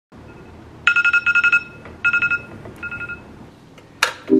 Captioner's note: phone beeping